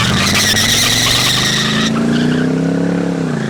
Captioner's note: screeching noise